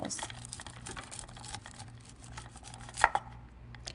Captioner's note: knife scraping against corn